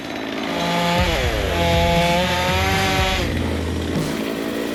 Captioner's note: saw whirring